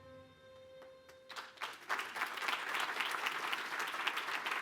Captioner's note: applause